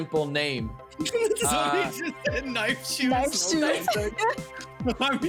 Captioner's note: laughing